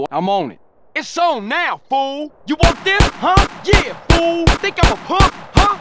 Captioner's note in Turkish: Ateş eder